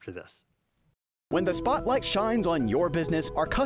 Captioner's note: voice-over